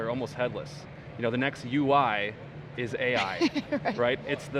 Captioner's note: laughs